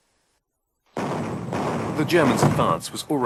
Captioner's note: bombs exploding